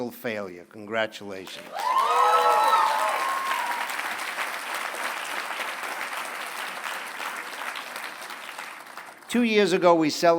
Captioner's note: applause